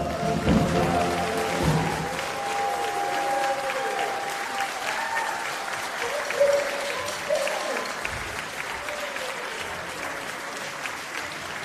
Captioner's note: applause